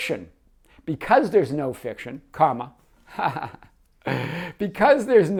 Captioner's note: laughs